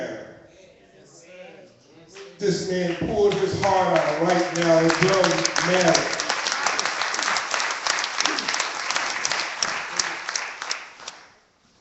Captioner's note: clapping